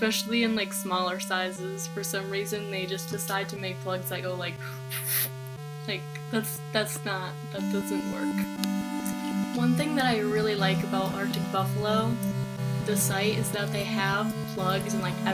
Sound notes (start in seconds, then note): 4.8 whew